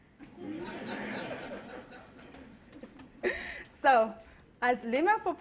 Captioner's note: laughter